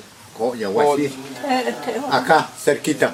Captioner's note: speaking in Mayan